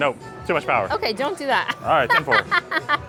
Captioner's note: laughs